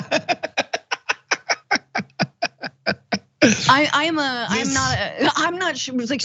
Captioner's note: laugh